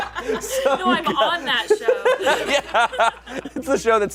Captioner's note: audience laughing; laughs